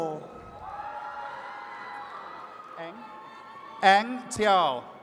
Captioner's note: attendees cheering